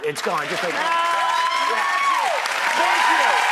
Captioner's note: applauding